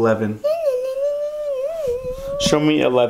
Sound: vocalizing

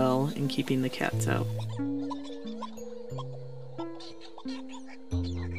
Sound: ‘Ua‘u calls from the Lānaʻi colony

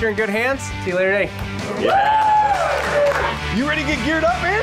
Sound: cheering

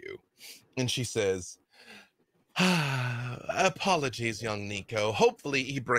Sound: exhales

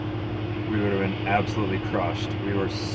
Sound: loud hum of motors

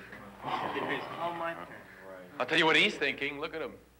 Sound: groans; students groan

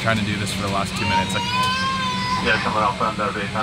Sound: baby crying; speaking in foreign language

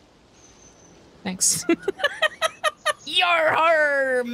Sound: laughter

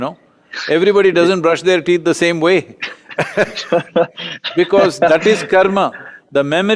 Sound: both laugh

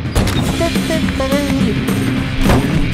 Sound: humming

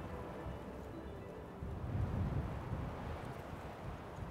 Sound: wind rushes

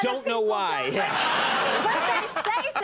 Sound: audience laughing

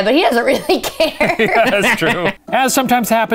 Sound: all laugh

